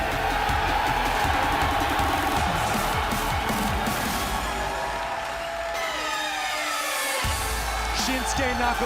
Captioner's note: cheers & applause